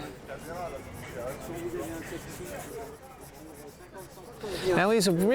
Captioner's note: people murmuring